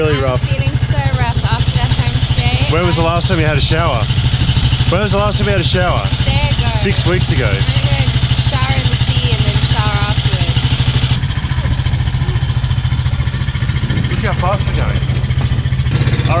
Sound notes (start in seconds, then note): 11.2 rattling motor